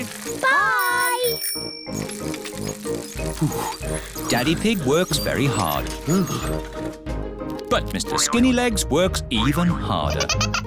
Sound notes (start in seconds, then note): 0.1 bell rings; 2.9 panting